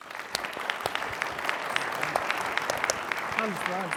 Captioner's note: audience applauding